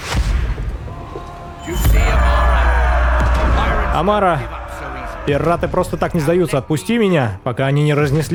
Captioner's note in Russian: крик